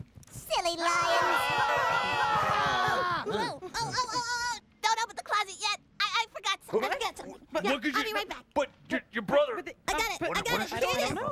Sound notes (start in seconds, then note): 1.5 all roaring